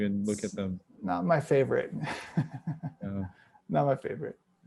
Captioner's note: chuckles